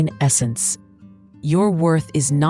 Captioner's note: pause